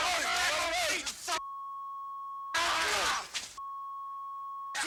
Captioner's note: people yelling; people yelling; beep